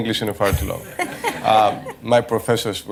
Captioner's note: laughter